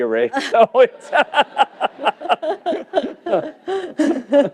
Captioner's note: laughter